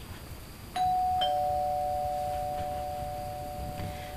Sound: bell ringing

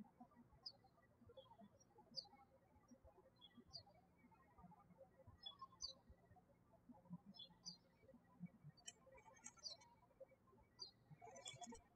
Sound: birds chirping

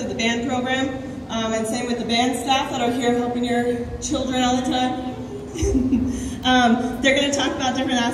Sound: laughs

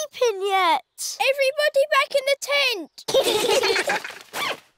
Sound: all giggling

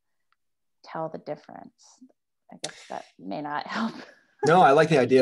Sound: laughs

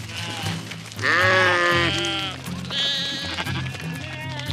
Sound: sheep baaing

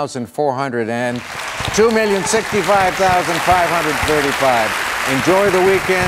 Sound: applauding

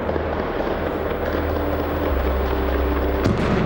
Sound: gunfire; explosion

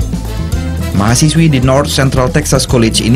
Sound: non-english speech

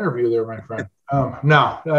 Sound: chuckles

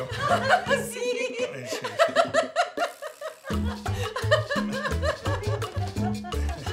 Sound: laughs

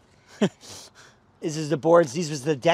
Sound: chuckling

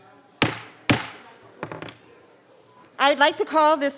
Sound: gavel banging

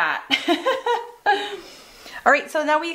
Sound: laughs

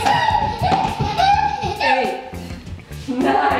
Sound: giggles

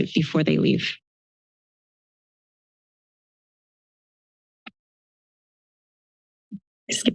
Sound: silence

